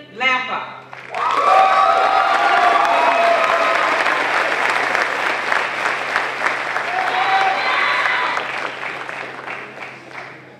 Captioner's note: applause